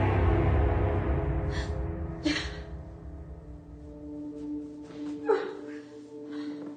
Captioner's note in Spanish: Sollozos